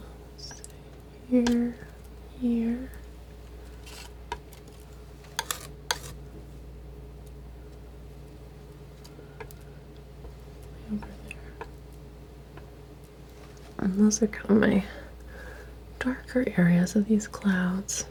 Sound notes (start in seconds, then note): 4.5 tapping